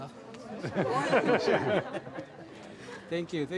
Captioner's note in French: Rires